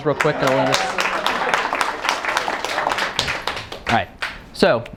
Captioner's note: clapping